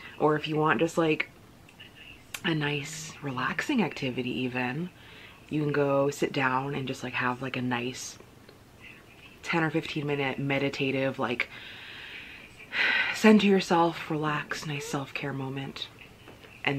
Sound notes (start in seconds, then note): 11.5 exhales